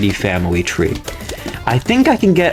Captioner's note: inhales Oxygen